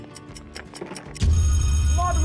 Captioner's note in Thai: เสียงนาฬิกา; เสียงกริ่งนาฬิกา